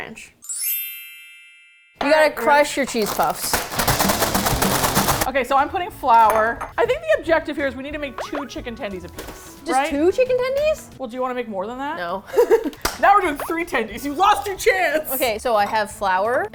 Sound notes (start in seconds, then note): 0.4 tinkling chimes; 2.8 plastic bag crinkles; 3.8 heavy metal music; 12.2 laughs